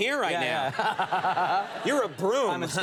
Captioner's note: laughing